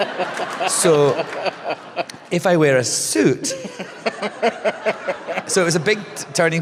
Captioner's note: laughter; laughter